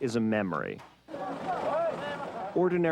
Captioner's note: vehicle humming